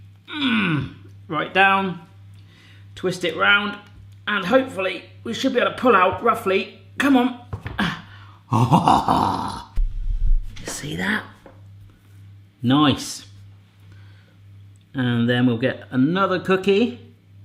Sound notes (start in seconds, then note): 0.3 groans; 7.8 gasps